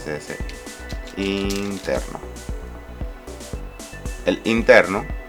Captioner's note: typing